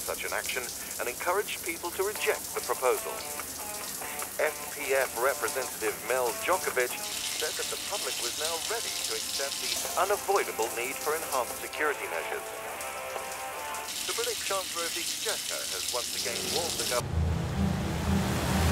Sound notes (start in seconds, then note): 3.6 light rock ringtone